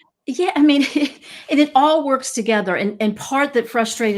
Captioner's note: laughs